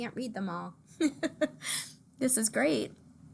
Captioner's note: laughs